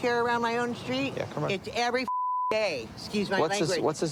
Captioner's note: beep